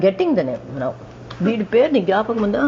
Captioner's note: speaking Telugu